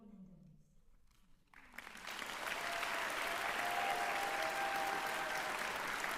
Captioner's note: applause